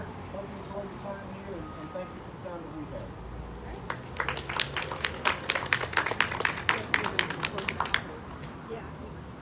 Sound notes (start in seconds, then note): 3.8 clapping